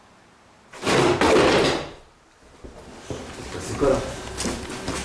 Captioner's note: object rumbling; speaks French